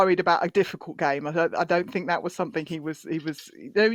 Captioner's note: none